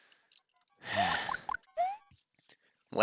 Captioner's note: sigh